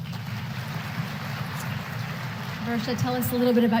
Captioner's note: applause